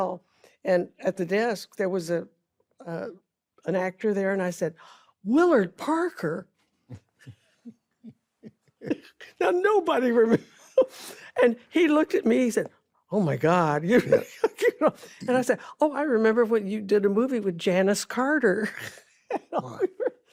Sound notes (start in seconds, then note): 6.7 both chuckle; 8.4 chuckles; 13.7 laughs; 19.3 laughs